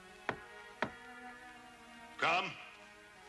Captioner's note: door knocking